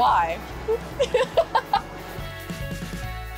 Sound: laughter; upbeat music

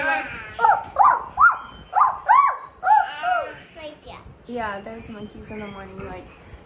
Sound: monkey noises

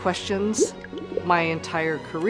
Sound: bubbling

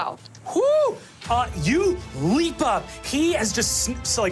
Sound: shouts

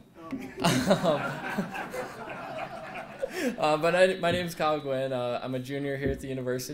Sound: laugh

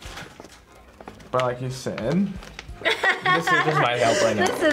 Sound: laughs

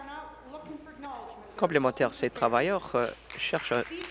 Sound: applause

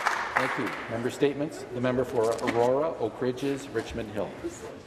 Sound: applause

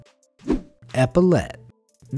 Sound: air whooshing

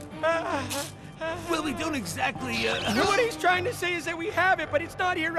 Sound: nervous whimpering

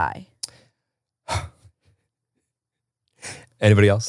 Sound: laughs

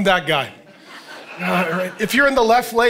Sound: congregation laughing

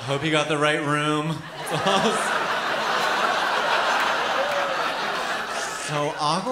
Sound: laughter

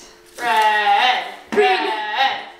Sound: chanting

